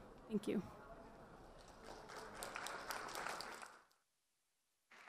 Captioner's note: audience applause